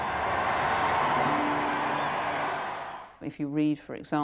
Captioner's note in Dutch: publiek juicht